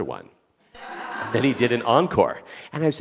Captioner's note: audience laughing